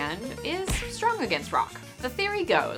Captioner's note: punch thuds